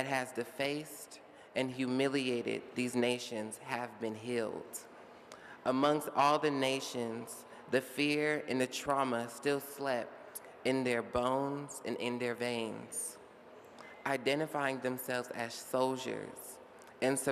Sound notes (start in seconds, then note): none